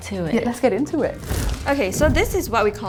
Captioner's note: fire sound effect